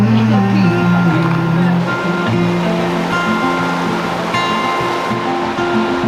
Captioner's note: humming; water rushing